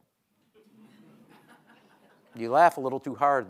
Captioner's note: audience laughing